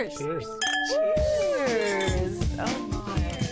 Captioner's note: glasses clinking